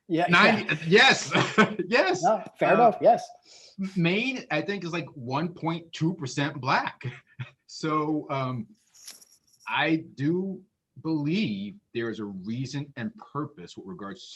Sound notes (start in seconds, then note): 1.2 laughs